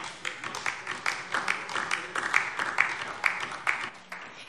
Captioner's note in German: Beifall DIE LINKE